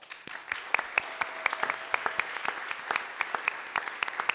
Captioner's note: audience applauding